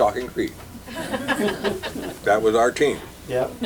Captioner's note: laughter